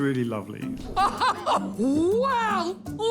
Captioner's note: laughing